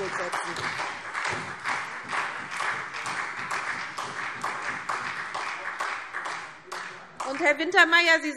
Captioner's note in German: Beifall SPD und Freie Demokraten